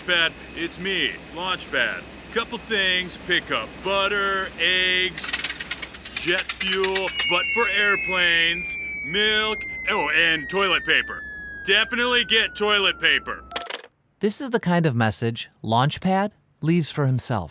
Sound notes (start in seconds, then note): 5.1 sputtering engine; 5.2 falling